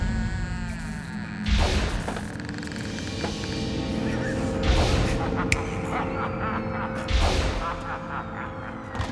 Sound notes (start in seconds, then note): 4.0 evil laughter